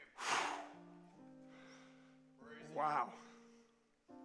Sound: huffs

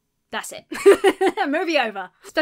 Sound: laughs

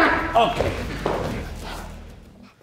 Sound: grunts

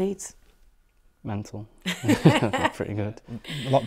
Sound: all chuckle

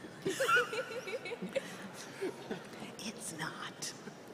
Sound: chuckling

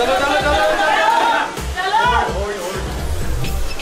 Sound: loud Cheering

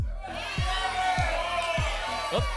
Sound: audience shouting numbers

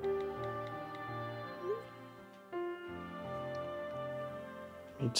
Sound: phone beeps

